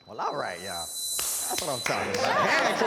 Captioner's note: pitch whirring